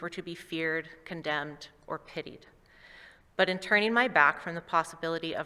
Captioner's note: none